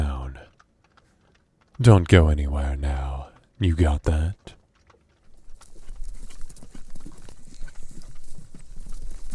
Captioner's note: horse running